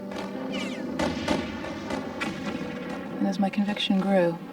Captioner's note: gunshots blasting